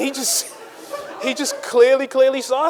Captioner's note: audience laughing